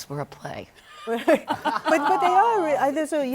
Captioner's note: laughter